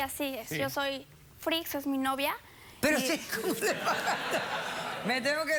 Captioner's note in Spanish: risas